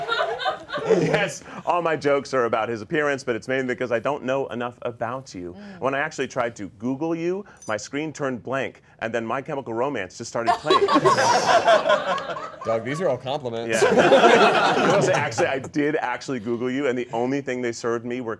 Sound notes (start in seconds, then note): 13.7 all laughing